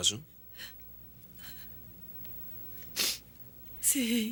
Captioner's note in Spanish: fungando